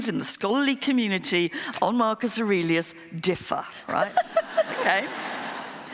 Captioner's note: laughter